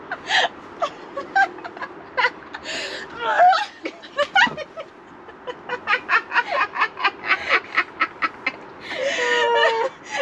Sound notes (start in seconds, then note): 0.8 laughing; 5.2 more laughter